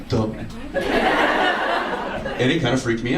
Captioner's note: audience laughs